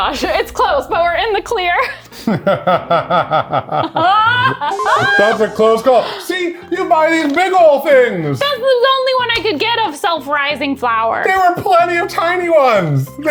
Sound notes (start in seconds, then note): 2.1 laughing